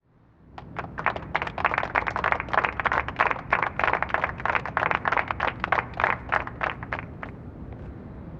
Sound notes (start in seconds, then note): 0.5 applause